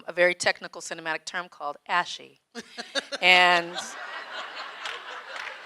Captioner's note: audience laughing